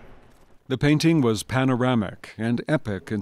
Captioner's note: voiceover